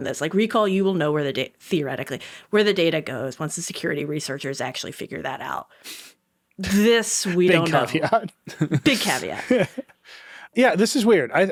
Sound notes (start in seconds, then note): 7.4 chuckles